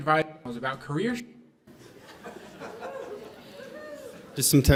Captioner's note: laughter